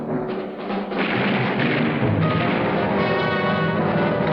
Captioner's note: gunfire